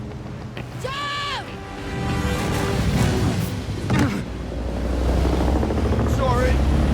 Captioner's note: screaming